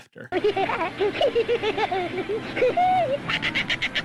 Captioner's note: Rubik laughing